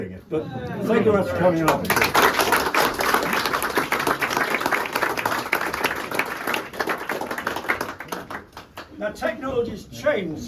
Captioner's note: crowd clapping